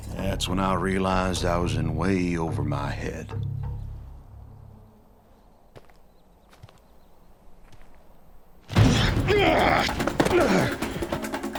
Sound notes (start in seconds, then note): 5.1 footsteps approaching; 8.8 grunting, fighting